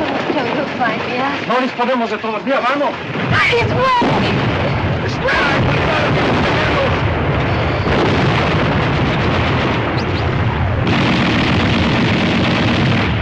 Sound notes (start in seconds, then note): 4.2 shouting